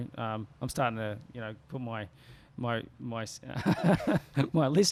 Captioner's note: laughs